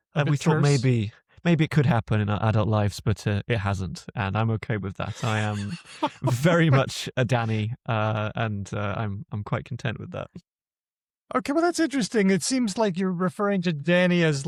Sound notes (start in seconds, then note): 4.6 laughs